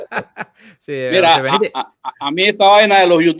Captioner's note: laughs